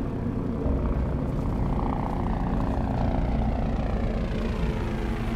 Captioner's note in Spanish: Zumbido del helicóptero